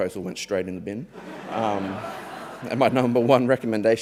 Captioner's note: audience members laughing